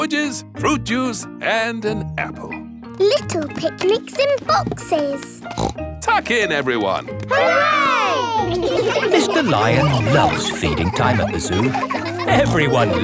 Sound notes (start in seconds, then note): 5.4 snorts